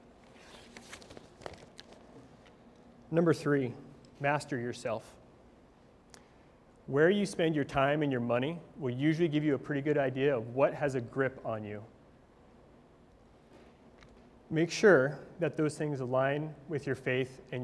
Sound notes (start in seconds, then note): none